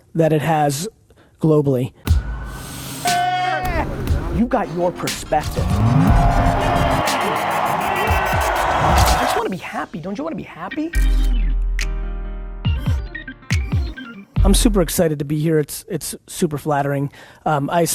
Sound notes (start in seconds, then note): 6.7 crowd cheers; 12.6 upbeat music